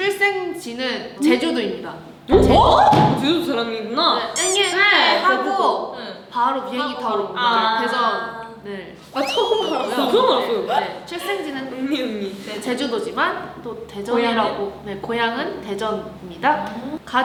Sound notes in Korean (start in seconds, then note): 4.4 응애 응애